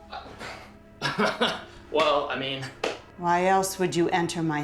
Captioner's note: chuckles